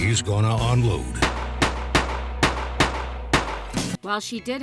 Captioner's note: gunshots fire